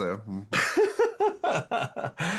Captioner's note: laughing